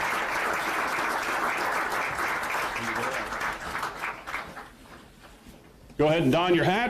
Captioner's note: applause